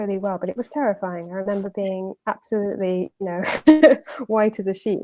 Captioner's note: laughs